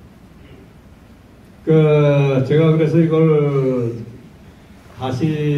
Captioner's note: in foreign language